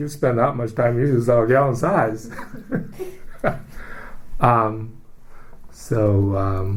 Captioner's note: laughs